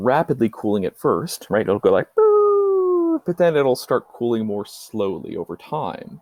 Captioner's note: descending noise